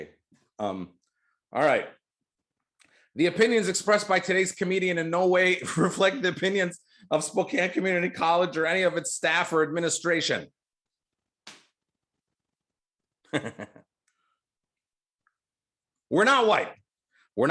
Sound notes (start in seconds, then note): 13.2 chuckles